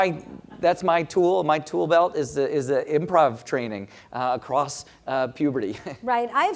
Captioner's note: laugh